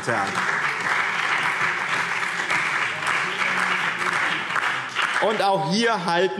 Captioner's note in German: Beifall BÜNDNIS 90/DIE GRÜNEN, CDU und DIE LINKE